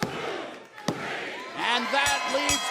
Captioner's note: bell ringing